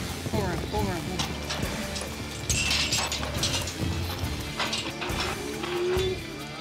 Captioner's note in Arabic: صوت بوابات